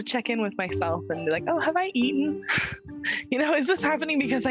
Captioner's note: chuckling